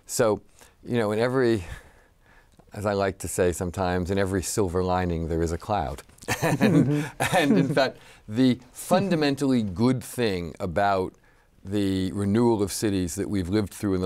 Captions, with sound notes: So you know, in every, as I like to say sometimes, in every silver lining, there is a cloud. (laughs) And in fact, the fundamentally good thing about the renewal of cities that we've lived through